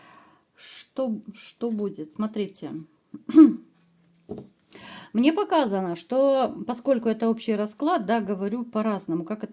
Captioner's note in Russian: откашливается